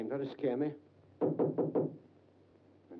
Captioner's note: knocking on door